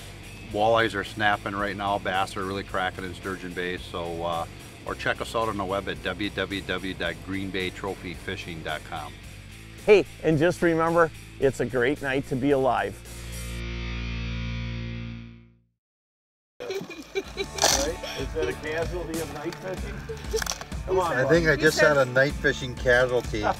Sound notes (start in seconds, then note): 16.6 laughing